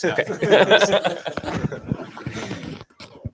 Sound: laughter

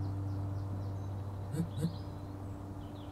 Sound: quick phone vibration

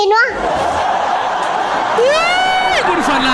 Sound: laughter

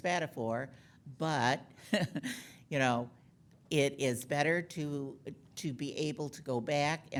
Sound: laughing

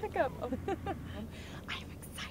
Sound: laughs

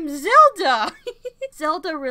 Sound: giggles

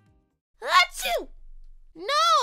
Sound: sneezes

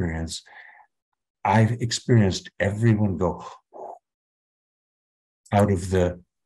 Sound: exhaling

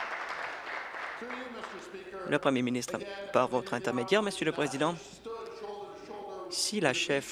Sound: applause

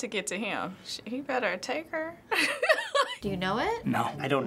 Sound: laughing

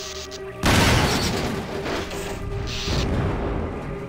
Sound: fire crackling; barrel exploding; gate smashing

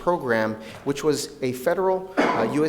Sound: coughs

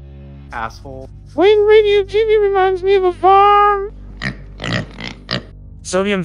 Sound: hog noises

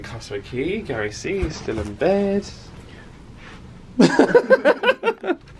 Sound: laughs

